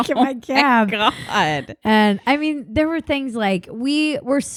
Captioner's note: laughs